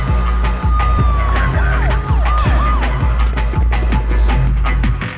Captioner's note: sirens blaring